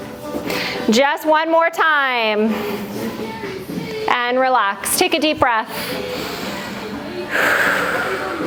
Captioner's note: breath